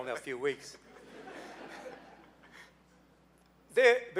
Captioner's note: laughing